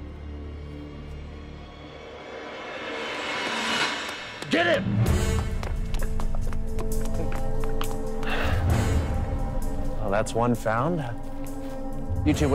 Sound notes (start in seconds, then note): 0.1 tense foreboding music; 5.5 tense dramatic music; 8.4 Dmitri laughs